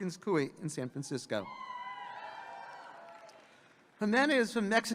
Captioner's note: audience cheering